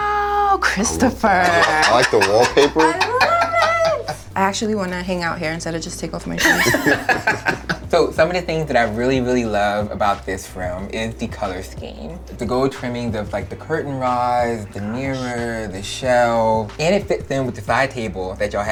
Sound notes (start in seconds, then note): 0.8 laughing; 6.4 laughter